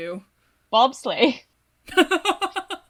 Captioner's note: laughs